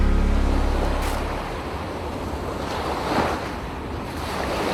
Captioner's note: waves crashing